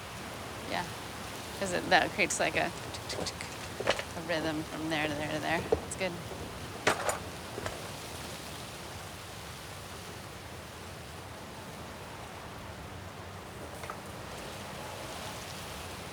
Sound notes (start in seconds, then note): 2.9 imitates ticking